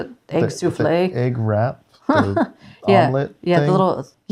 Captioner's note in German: lacht